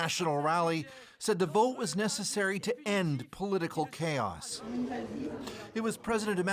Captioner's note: speaking French